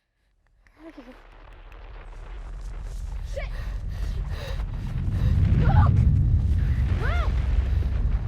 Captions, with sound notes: [ TONGUE CLICKING ] SHIT! LUKE? LUKE!